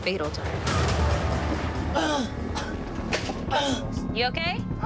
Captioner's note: gasping, coughing